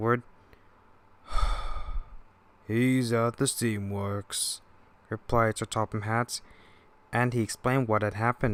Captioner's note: sigh